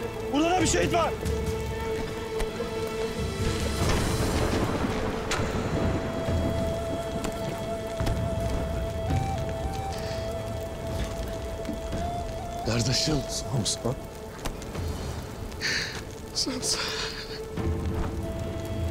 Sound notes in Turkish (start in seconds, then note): 3.4 Gök gürleme efekti; 7.9 Müzik - Hüzünlü; 14.8 Ağlama sesi